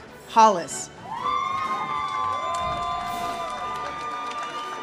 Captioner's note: audience cheers